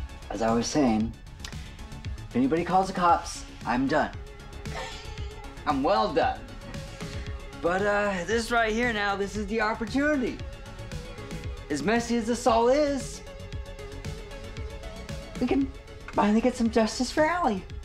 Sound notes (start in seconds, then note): 0.0 upbeat tense music; 4.7 laughing